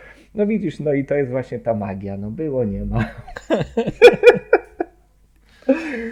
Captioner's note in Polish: śmiech